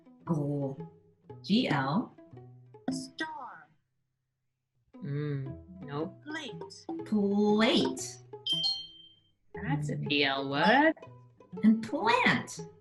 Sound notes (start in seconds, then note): 8.4 bell tinging